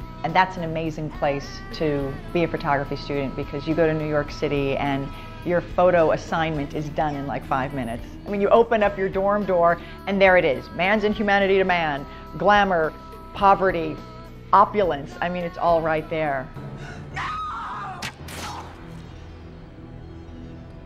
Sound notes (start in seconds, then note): 17.1 screaming